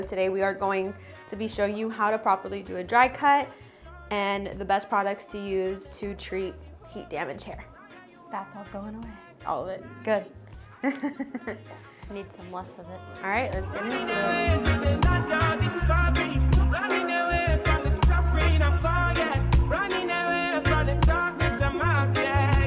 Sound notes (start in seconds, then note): 12.8 laughs; 19.7 upbeat music